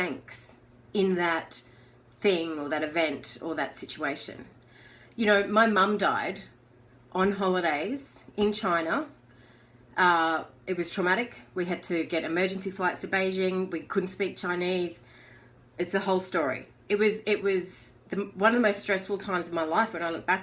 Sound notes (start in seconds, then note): none